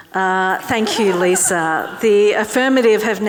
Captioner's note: audience clapping